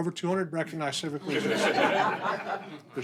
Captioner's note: laughter